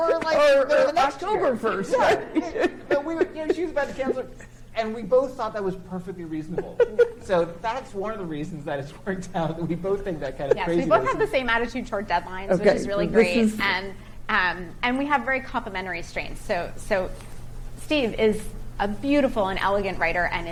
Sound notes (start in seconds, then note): 0.0 laughs; 9.5 chuckling